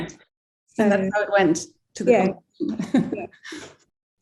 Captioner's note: laughing